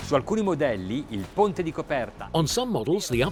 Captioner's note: upbeat music; speaking in foreign language